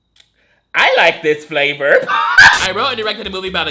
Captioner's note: laughs